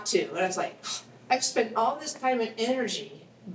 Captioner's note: scoffs